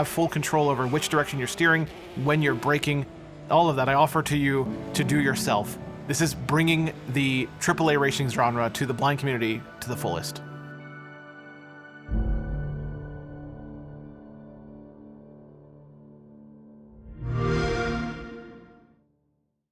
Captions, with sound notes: when you're braking, all of that, I offer to you to do yourself. This is bringing the AAA racing genre to the blind community to the fullest. [DRAMATIC MUSIC PLAYING] [XBOX SOUND]